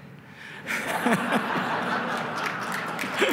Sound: laughter and applause

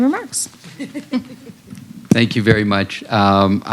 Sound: laughter

